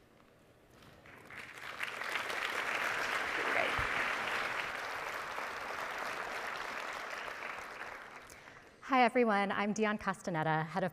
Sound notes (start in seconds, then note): 1.0 audience applauding